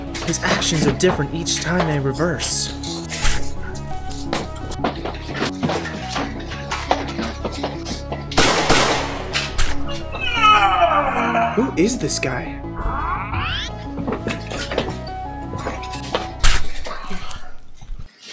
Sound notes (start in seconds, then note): 0.0 struggling; 4.7 struggling; 8.2 bang! bang!; 10.1 groan